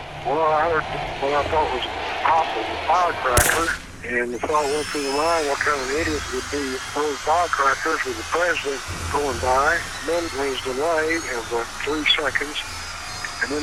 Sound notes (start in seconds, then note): 3.4 gunshot blasts